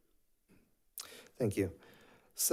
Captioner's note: none